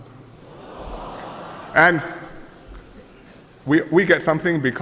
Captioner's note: voices of astonishment